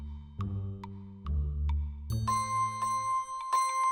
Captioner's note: clock ticking; soft music; bell ringing